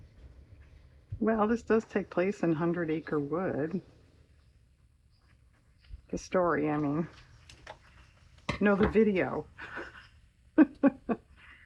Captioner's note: laughs